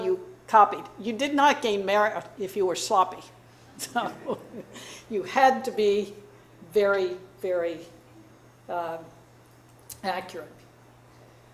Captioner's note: chuckles